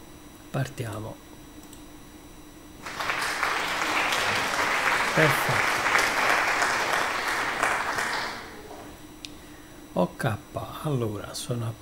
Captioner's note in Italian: Applauso